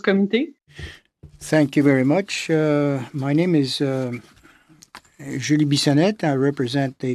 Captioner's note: speaking French